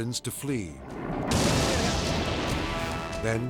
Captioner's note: explosion booming